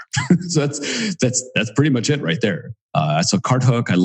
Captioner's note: laughs